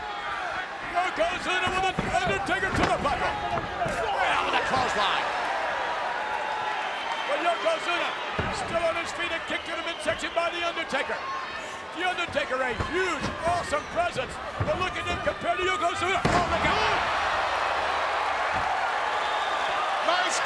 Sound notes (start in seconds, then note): 16.5 body slams; 17.7 crowd cheering